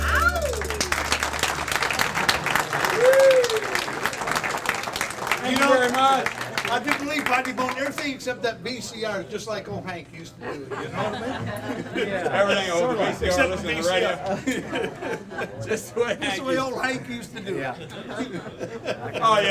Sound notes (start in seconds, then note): 0.0 audience applauds; 10.5 laughing; 14.2 laughing; 17.8 laughing